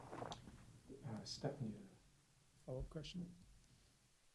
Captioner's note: voiceover